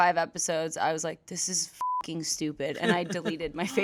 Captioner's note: beep